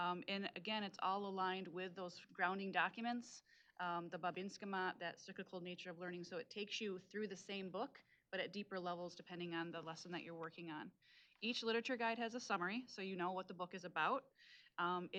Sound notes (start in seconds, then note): 4.2 speaking Native language